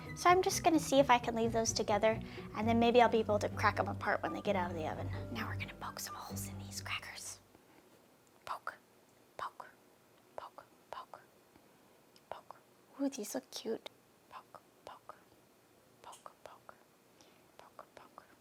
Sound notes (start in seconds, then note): none